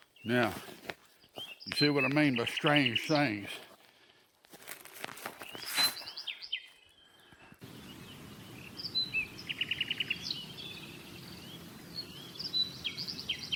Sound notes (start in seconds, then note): 3.6 breathing uneasily; 7.6 wind whistling; 7.7 birds chirping; 10.3 insects chittering